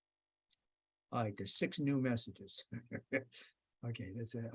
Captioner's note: laughs